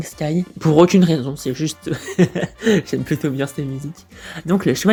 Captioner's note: haha